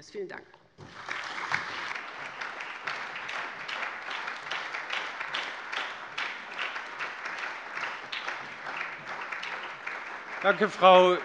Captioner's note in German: Allgemeiner Beifall